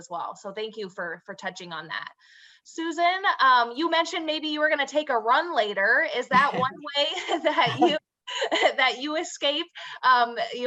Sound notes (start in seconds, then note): 6.3 chuckles; 6.3 laughs